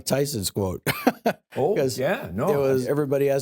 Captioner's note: laughs